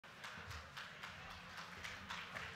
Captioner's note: applause